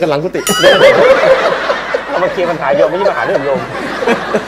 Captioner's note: laughing